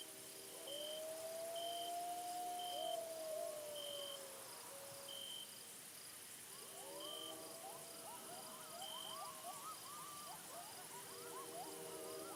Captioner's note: coyotes howling